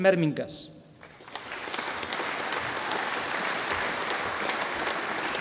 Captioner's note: audience applauding